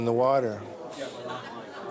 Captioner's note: sniff